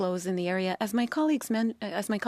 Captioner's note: speaking French